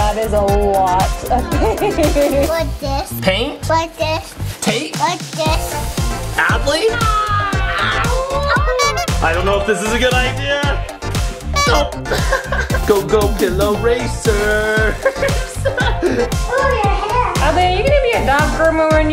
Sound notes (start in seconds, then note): 11.7 laughs; 14.7 laughs